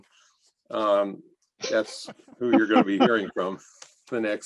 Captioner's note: laughter